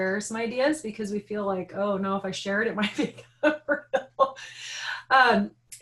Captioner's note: laughing